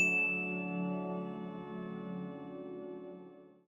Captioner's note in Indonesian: lonceng